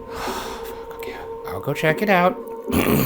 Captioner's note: eerie music; sighs